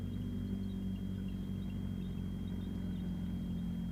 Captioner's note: engine rumbling